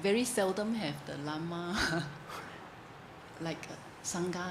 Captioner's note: chuckles